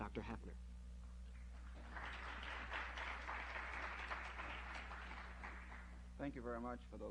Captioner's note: applause